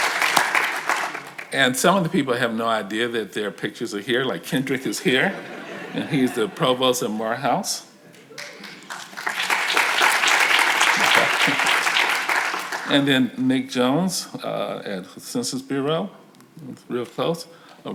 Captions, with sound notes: And some of the people have no idea that their pictures are here. Like Kendrick is here and he's the provost at Morehouse. (audience applause) And then Nick Jones at Census Bureau, real close Rashid Njai